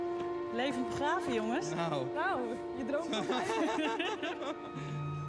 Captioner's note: laughter